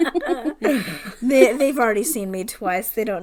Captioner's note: laughs